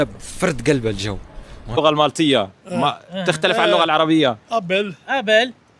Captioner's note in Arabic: ضحك